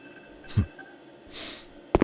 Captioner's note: Heavy Guy snickers once